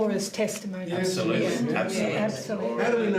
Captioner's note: muttered agreement